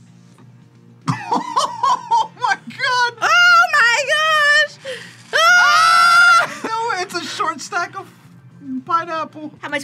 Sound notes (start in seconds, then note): 1.1 laughs; 5.3 both scream